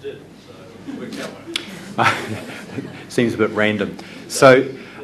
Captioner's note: laugh